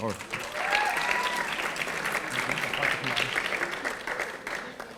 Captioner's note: audience applauding